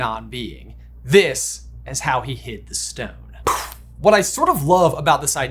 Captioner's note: lips chuffing